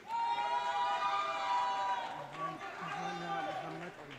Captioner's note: audience cheering